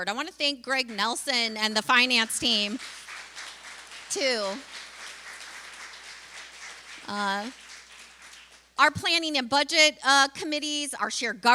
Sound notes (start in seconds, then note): 2.8 applause